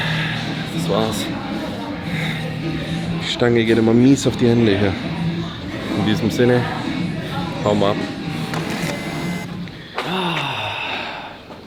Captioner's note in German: seufzt